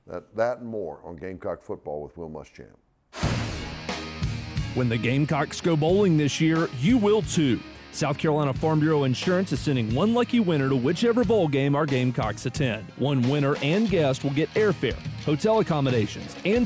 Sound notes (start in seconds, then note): 3.2 intense music; 4.8 voiceover